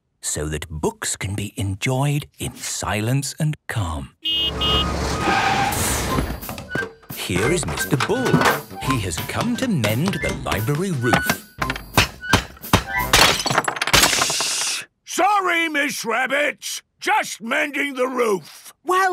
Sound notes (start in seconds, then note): 4.2 honking, engine revving; 11.0 banging, crashing